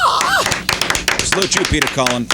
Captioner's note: applause